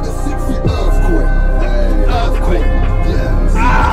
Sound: screams

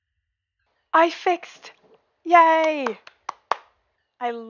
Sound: claps

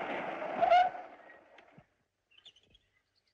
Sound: brakes Sound

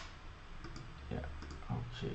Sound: typing

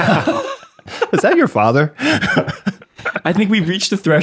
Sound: everyone laughs; chuckles

